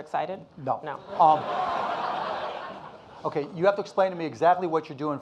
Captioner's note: audience laughing